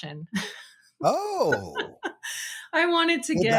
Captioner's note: laughing